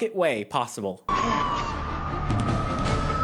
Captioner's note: Dexter grunting and struggling; police sirens